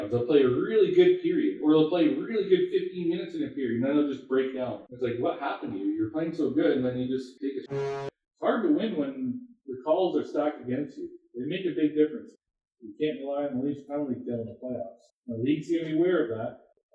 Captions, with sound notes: They'll play a really good period or they'll play a really good 15 minutes in a period and then they'll just break down it's like what happened to you? you were playing so good and then you just take a (goal horn sound playing). It's hard to win when the calls are stacked against you. They make a big difference. You can't rely on the Leafs penalty kill in the playoffs, and the league's gonna be aware of that